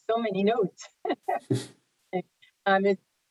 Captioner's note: laughs